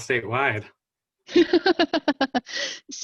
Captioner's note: laughter